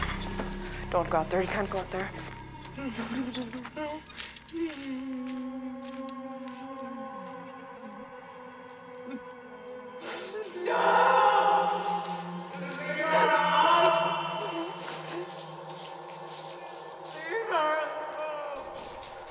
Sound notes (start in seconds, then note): 0.0 dark tense music; 4.5 lover whimpering; 15.1 Brigit sobbing